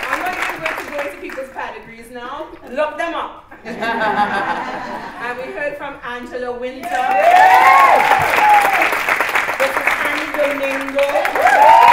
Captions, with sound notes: I'm not going to go into people's pedigrees now. Look them up! (LAUGHTER) And we heard from Angela Wynter. (CHEERING) This is Anni Domingo. (CHEERING)